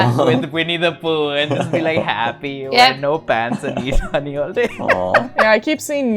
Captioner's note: laughter